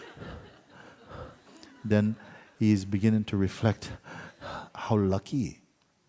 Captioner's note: labored breathing sounds